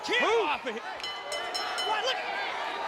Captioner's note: bell ringing